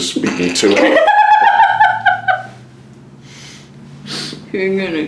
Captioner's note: laugh